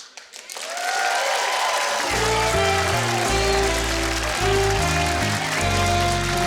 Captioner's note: audience applauding; light music